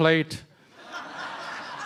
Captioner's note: laughter